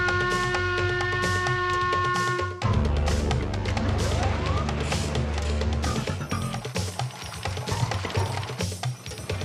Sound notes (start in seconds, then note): 4.7 machines whirring